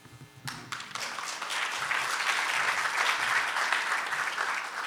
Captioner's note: audience applauding